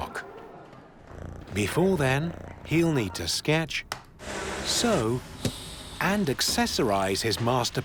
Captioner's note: cat purring